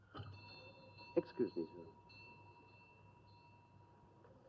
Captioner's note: doorbell rings; doorbell rings